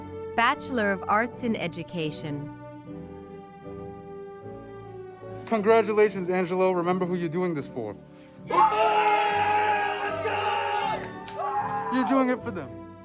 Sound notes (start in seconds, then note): 8.4 screaming